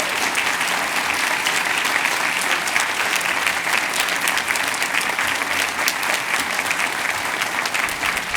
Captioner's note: cheers and applause